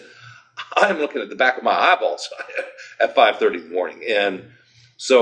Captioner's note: chuckles